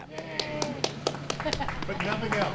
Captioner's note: applause